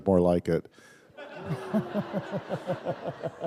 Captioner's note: laughter